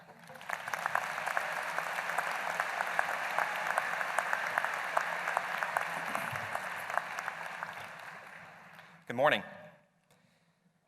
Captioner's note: applause